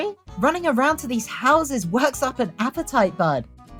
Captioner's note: none